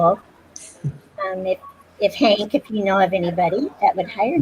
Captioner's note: laughs